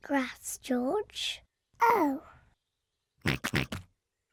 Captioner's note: oinks